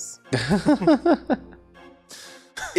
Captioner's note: chuckles